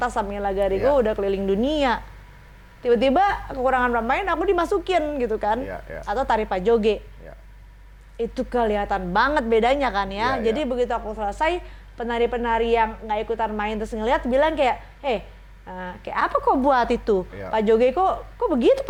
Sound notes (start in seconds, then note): 14.4 in an accent